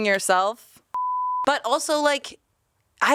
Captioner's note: beep